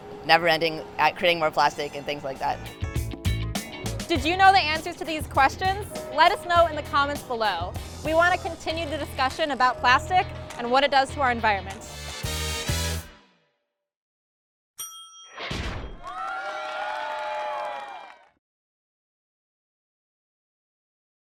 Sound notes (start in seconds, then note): 14.8 ding; 16.0 cheering